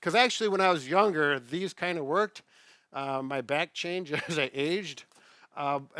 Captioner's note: chuckling